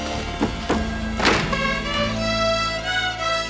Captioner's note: door slams; rudimentary string music continues